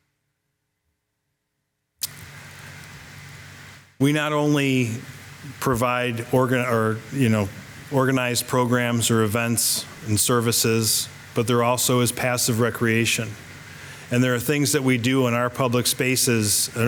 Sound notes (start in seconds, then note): none